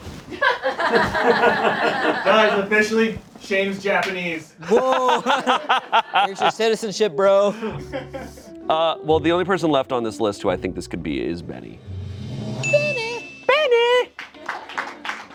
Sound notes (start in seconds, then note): 0.3 friends laugh; 4.6 laughing; 12.6 bell dings